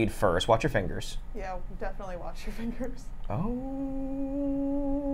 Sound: laughs

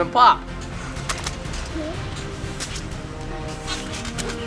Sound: splash

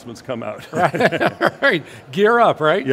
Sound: laughs

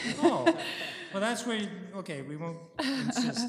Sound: laughter

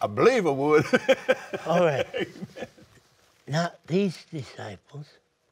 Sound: laughs

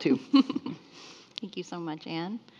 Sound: laughing

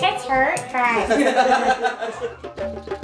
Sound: laughs; upbeat drum music

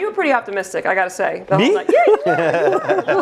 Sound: laugh

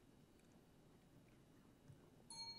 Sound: timer ding

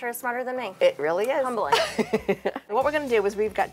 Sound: laughs

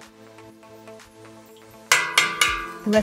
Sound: pot tinkling

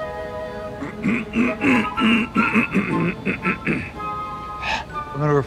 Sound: clears throat

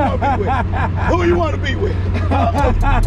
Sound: laughs

